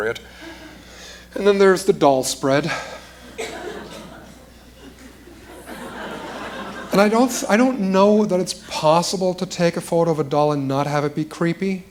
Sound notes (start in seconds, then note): 3.3 laughter